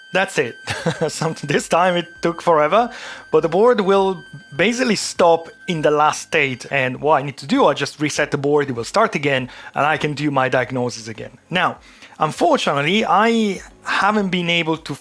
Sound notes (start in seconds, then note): 0.6 laughs